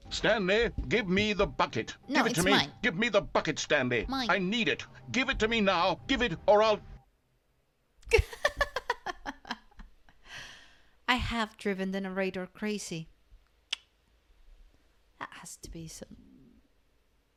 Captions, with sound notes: No, it's mine mine [laugh] I have driven the narrator crazy. That has to be some...